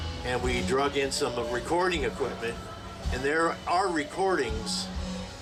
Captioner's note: none